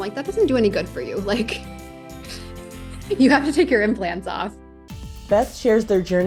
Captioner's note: laughs